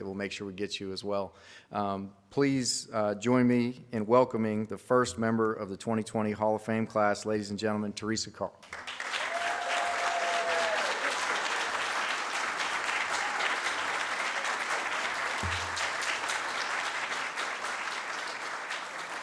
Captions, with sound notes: that we'll make sure we get you as well. Please join me in welcoming the first member of the 2020 Hall of Fame class, ladies and gentlemen, Teresa Carl. (audience cheers)